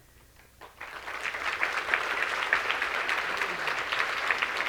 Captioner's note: audience clapping